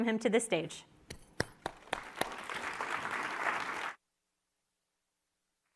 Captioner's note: audience applauding